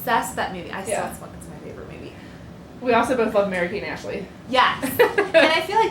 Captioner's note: laughter